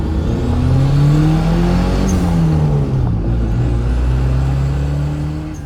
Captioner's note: engine noise